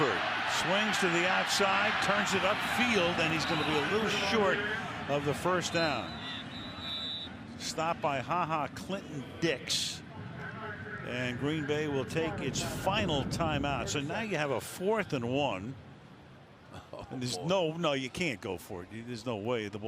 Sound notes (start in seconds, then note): 5.7 whistle